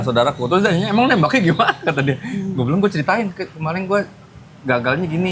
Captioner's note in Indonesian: tertawa